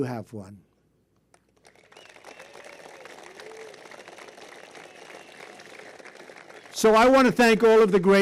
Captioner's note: applause